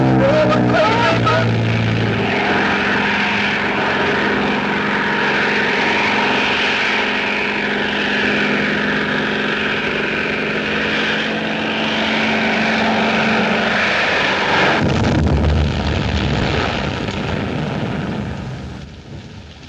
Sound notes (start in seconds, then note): 14.6 boom!